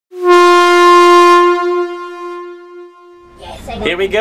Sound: air horn sounds

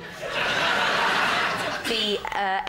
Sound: laughter

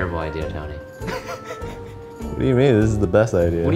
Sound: laughing

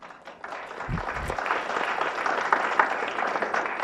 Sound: clapping

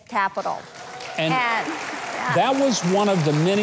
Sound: audience applauding

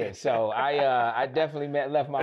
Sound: laughs

